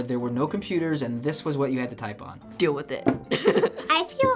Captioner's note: laughs